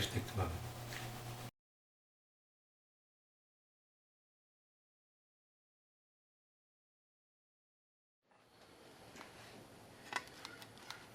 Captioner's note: pause